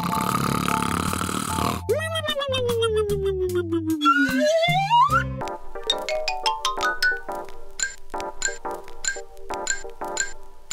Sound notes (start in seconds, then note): 0.0 snoring; 3.9 slide whistle ascending; 7.5 xylophone plinking